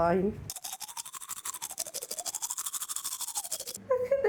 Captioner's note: tooth brushing